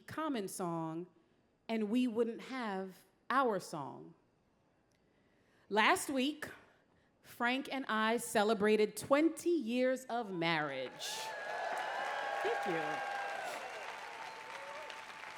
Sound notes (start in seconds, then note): 10.8 applause